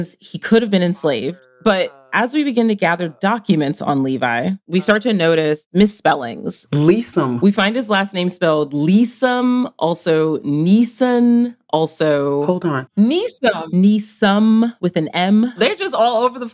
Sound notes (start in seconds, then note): none